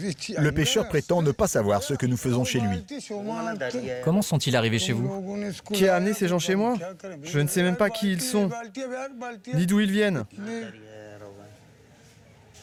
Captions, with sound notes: the fisherman claims to have no idea what we are doing there. (men speaking foreign language)